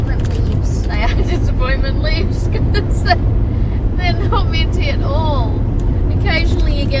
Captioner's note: laughing